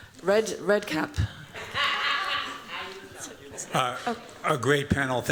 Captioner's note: laughs